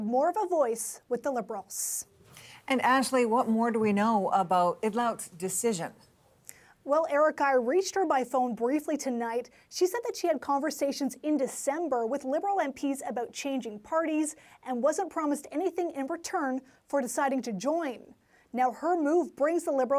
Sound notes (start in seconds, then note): none